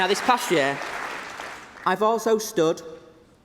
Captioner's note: applause